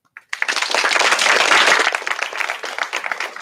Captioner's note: applause